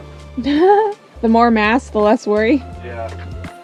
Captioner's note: laughing